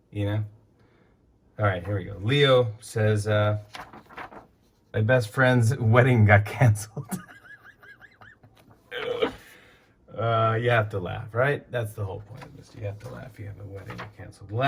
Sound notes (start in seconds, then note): 6.9 laughs